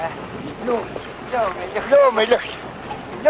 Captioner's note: non-english speech